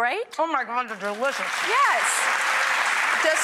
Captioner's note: audience claps